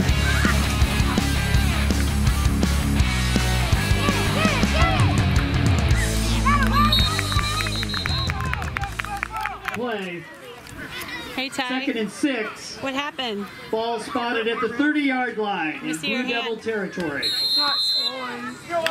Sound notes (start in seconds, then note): 6.8 whistle blowing; 9.1 clapping